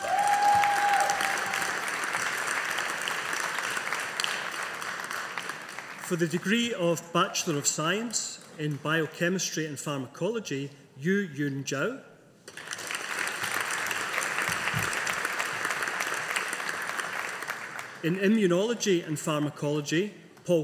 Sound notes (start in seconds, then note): 0.0 audience applauding; 12.5 audience applauding